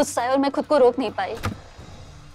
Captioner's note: Door opens